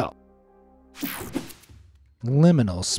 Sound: techno sound effect

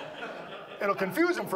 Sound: audience laughs

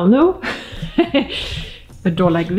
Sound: laughing

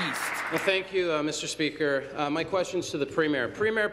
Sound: applause

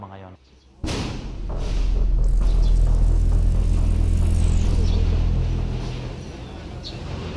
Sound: bomb exploded

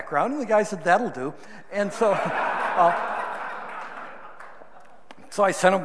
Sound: audience laughing

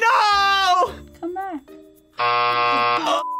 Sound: buzzer rings; laughs

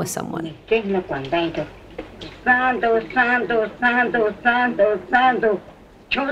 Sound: speaking in foreign language

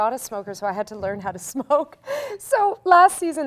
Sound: laughs

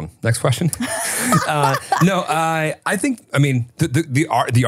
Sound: laughing

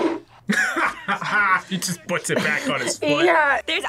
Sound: laughs

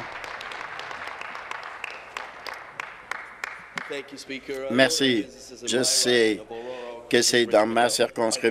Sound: applause

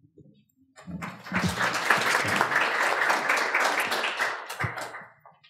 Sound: audience applauds

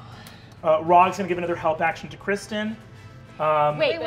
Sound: none

